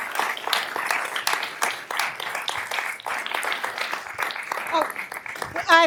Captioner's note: applause